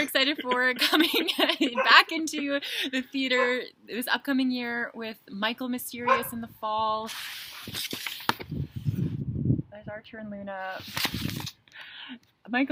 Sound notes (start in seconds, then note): 6.0 dog bark